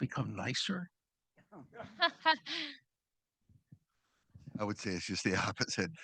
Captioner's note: audience laughing